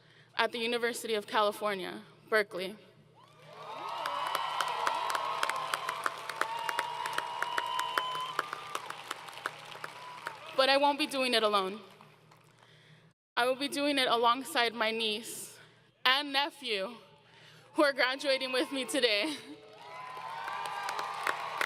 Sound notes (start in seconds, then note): 3.2 crowd Cheering; 19.6 applause & Cheering; 19.7 laughing